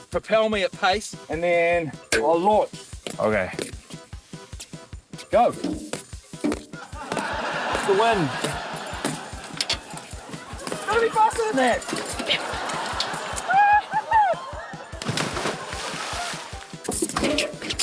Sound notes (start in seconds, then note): 7.1 laughter